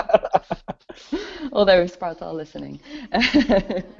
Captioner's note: both Laugh